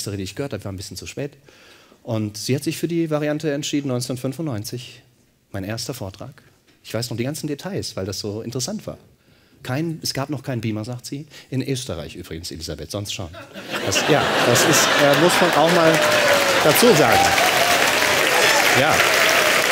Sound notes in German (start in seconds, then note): 15.2 Lachen; 16.4 Klatschen